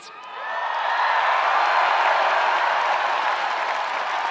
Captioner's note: spectators cheering